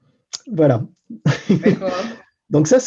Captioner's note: laughs in French